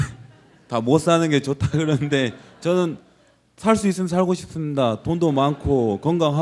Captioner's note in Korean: 웃음